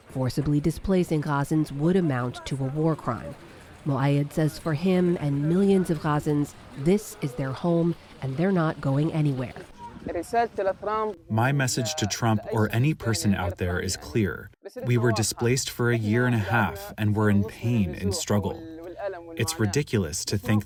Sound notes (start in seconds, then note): 11.9 through translator